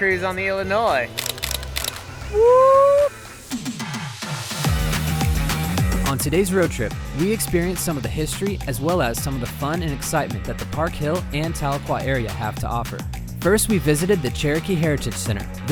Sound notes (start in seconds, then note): 1.1 camera clicks; 2.3 yells; 3.6 upbeat music